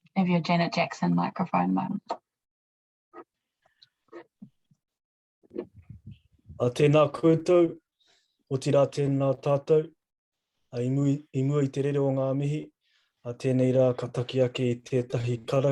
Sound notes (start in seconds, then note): 6.8 speaking in foreign language